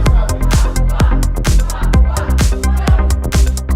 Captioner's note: chants